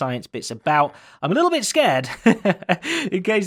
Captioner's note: laughs